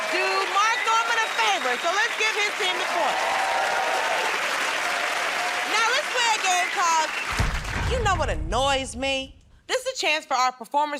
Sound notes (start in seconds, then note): 3.6 cheers and applause